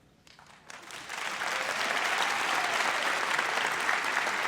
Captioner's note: audience applauds